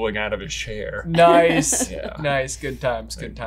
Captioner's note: chuckles